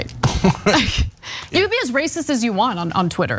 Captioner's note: laugh